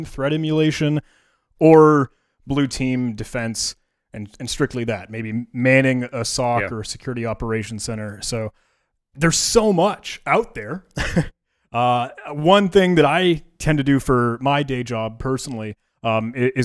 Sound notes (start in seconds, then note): 10.9 chuckles